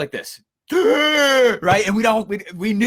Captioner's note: gasping